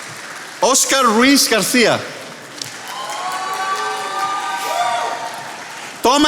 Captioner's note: attendees applauding